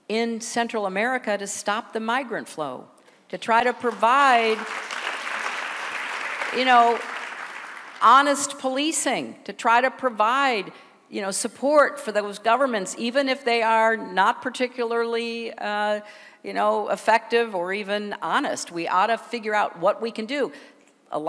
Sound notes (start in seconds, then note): 3.7 applause